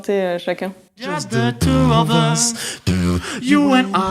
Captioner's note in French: beatbox